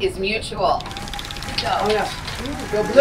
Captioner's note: wheel clicking; applause